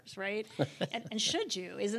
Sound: laughs

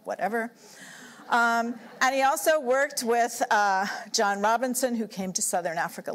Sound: laughter

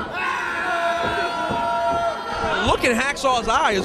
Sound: crowd screaming

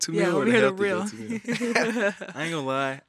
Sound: chuckles

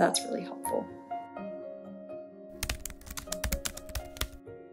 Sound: typing sound effects

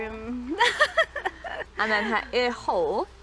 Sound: laughs

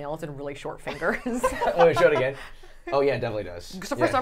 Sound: laughing

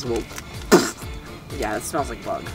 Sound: splatter noise

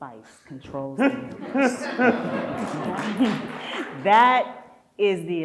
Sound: audience laughs

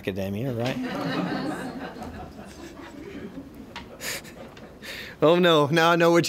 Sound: laughter

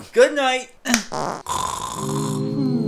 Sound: fart

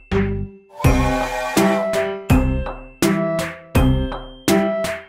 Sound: upbeat music; train toots

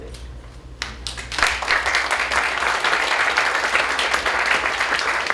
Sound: applause

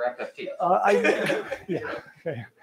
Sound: laughter

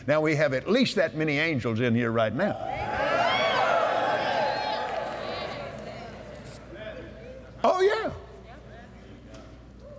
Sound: cheers

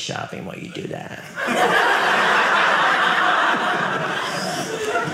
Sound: audience laughing

